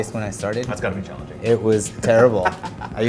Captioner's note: laughing